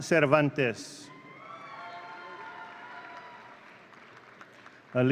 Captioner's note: audience cheering